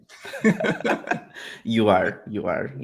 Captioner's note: both laughing